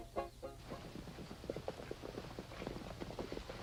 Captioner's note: horses trotting